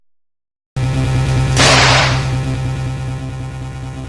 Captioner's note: bang!